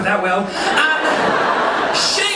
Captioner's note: audience laughing